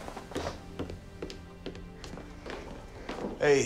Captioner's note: feet tapping